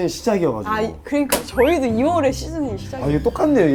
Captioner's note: slap!